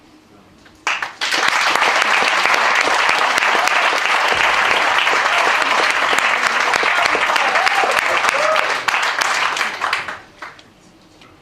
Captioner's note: applause